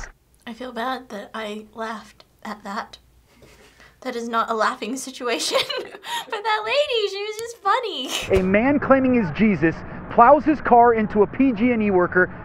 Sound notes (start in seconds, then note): 5.4 cracks up